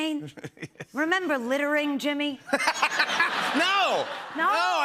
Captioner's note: laughter